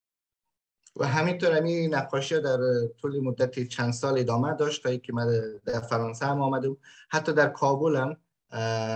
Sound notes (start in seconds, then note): 1.0 speaks in Dari